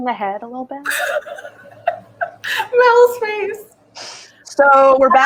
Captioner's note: laughs